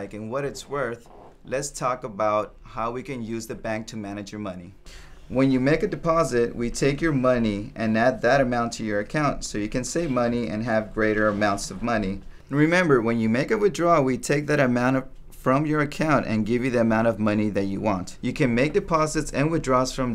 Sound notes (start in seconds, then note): none